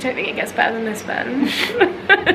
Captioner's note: laughing